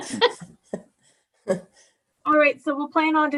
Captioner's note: all laughing